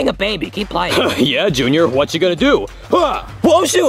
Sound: exhales sharply; both grunt

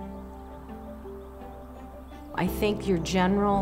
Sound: birds chirping

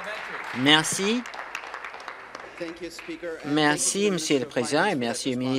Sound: applause

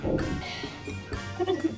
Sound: breath heavily

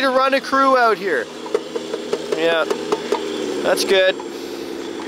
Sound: taps on metal

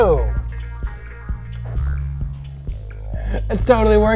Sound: faint vibrating

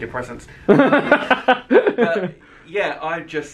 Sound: laughing

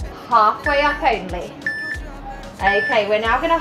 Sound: alarm beeping

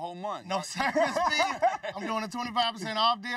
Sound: laughs

